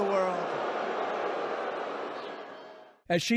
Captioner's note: crowd booing